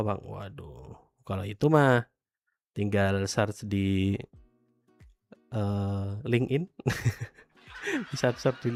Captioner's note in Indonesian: tertawa